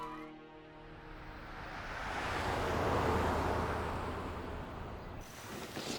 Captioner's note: birds chirping; vehicles whooshing